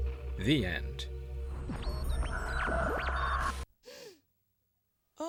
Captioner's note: creepy electronic noises and distant laughter